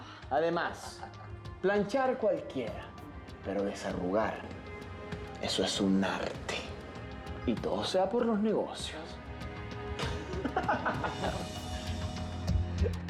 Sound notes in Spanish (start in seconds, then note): 9.9 Risas